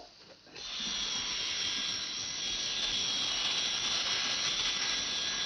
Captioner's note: airplane whirring